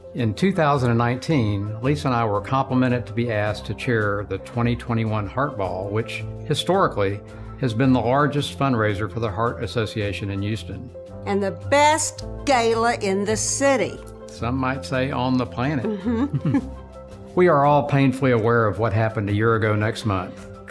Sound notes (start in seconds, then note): 15.9 laughs